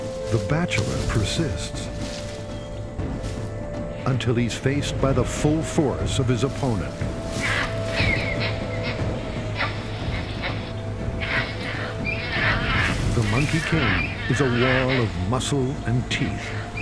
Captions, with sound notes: The bachelor persists until he's faced by the full force of his opponent. (dramatic music) (monkeys grunting) The Monkey King is a wall of muscle and teeth.